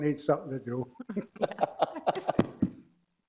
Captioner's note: laughs